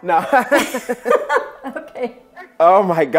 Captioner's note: both laughing